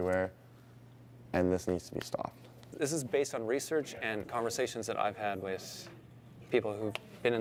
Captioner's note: none